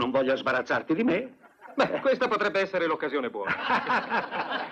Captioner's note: all laugh